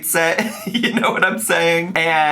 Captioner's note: laughs